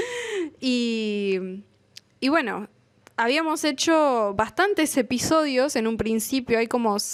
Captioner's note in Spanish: risas